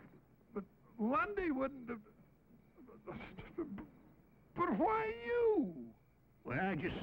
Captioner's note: stammers